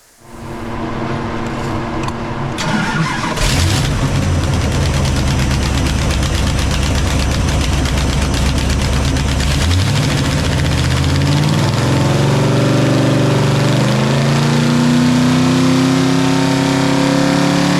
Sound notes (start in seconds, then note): 2.5 engine rumbling; 12.2 engine revving